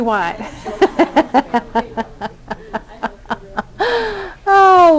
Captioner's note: laughter